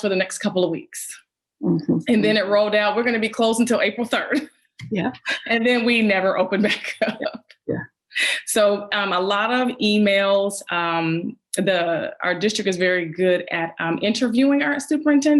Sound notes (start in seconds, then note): 5.4 laughs